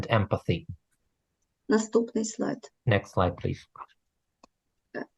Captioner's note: foreign language